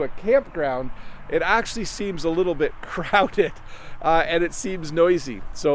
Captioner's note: laughs